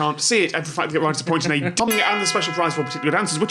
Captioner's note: bell gong